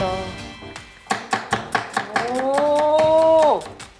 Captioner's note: onion slicing ASMR